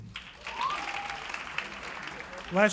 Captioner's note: cheering